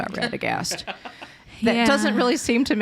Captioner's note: laughs